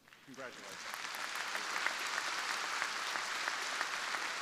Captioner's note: crowd applauding